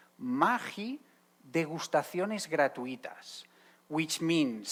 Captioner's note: speaking Spanish